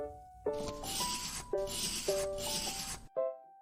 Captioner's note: pencil scratching